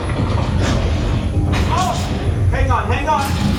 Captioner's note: train rumbling; lights flickering